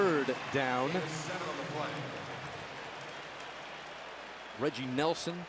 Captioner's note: pa announcement